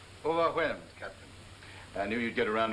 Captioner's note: speaking in foreign language